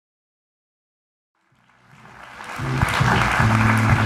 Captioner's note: applause